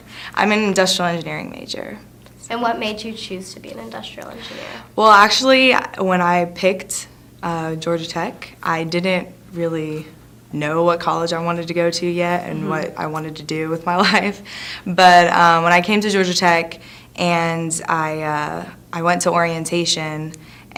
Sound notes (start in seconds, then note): 12.6 laughs nervously